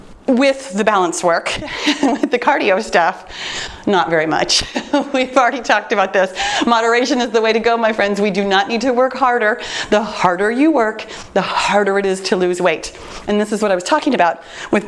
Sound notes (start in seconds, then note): 1.6 chuckles; 4.5 laughs